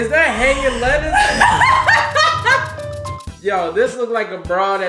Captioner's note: laughing